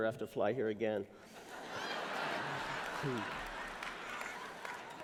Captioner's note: laughter